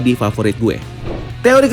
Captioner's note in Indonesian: suara transisi